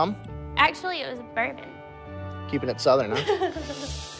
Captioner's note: laughs